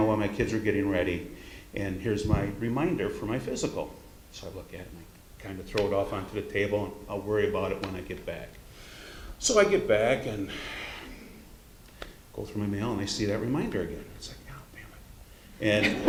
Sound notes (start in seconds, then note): 10.4 sighs